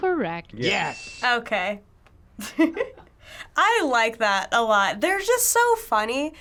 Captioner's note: laughing